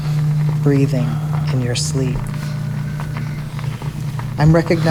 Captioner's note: sound of sleepy breaths